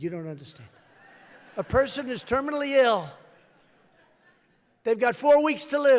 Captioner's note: laughter